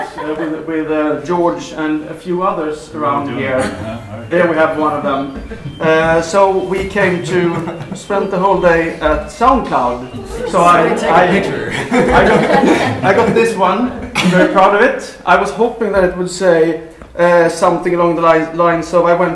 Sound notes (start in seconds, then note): 11.6 laughter